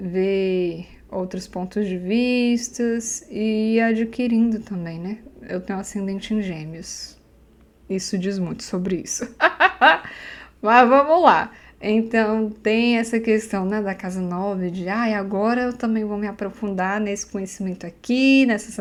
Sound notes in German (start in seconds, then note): 12.0 Lacht